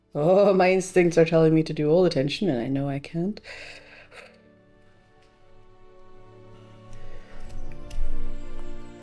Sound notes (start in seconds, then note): 3.4 anxious breath